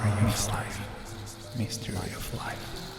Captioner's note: voices echoing